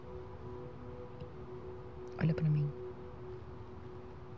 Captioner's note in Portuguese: none